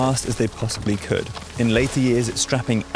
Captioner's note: tree crashing